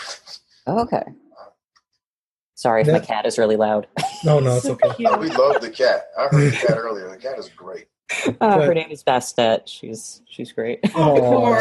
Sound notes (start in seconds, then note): 4.2 laugh